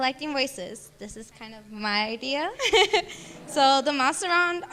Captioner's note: laughing